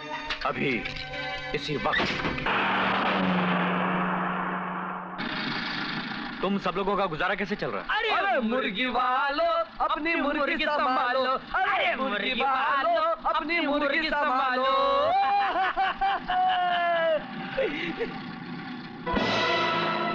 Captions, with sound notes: Just now. At this moment. How is your life going on? "The owner of the chickens, save your chickens..." "The owner of the chickens, save your chickens..." (Laughs)